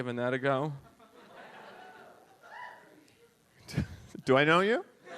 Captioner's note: audience laughs